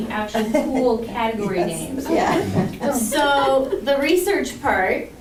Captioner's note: laughter